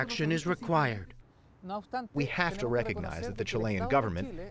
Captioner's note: through translator